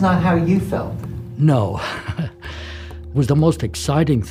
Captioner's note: laughs